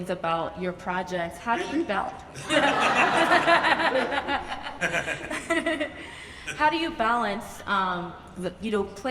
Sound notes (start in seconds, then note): 2.3 audience laughs; 2.3 laughs